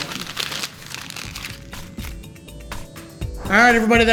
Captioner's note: paper crumpling